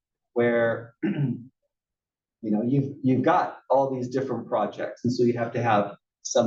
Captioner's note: cough